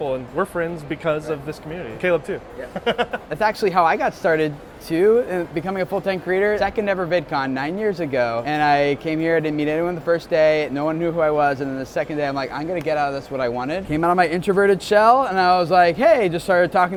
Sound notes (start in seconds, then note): 2.6 laughs